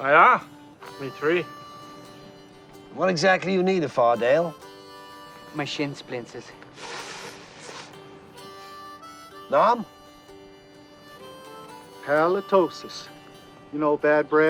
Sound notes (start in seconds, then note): 6.5 hissing